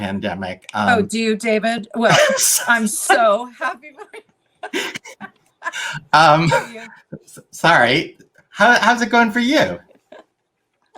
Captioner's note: laughter